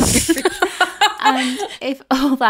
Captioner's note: both laughing